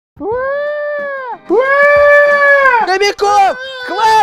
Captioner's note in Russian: Малыш Кобяков орёт